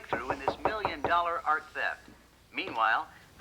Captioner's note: knock at door